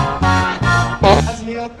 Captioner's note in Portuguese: barulho de peido